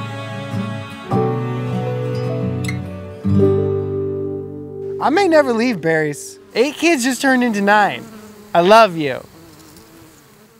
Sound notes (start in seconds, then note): 0.0 emotional music; 9.3 bees buzzing